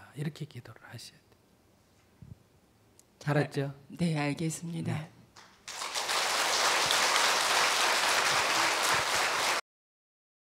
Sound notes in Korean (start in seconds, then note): 5.4 청중 박수